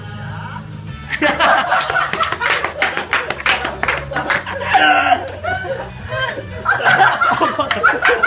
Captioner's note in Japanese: 爆笑